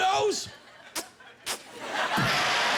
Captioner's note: imitating kissing